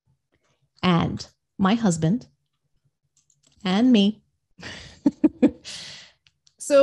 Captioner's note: laughs